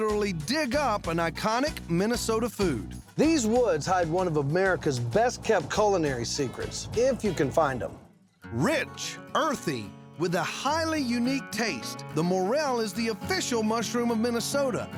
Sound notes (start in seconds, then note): none